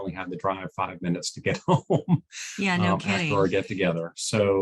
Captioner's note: chuckles